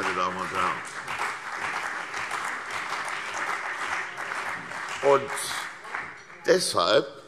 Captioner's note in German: Beifall CDU und BÜNDNIS 90/DIE GRÜNEN